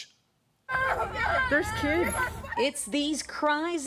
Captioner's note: children crying, screaming